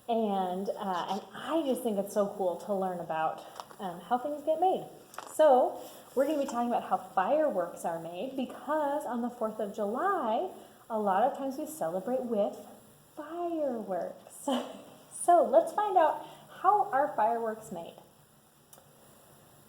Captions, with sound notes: And I just think it's so cool to learn about how things get made. So, we're gonna be talking about how fireworks are made because on the Fourth of July, a lot of times we celebrate with fireworks. (laughs) So, let's find out how are fireworks made.